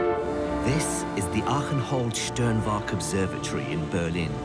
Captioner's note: voiceover